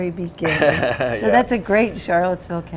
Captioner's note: laughs